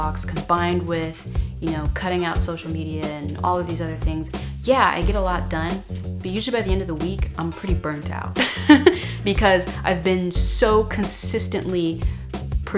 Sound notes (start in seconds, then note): 8.4 laughs